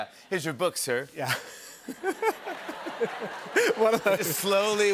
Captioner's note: laughter